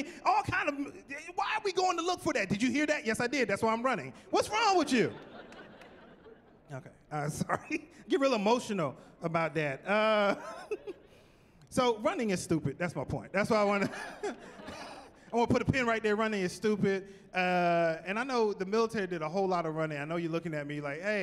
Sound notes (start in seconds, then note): 5.0 laughing; 10.2 chuckling